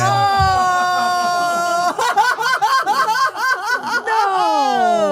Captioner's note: laughing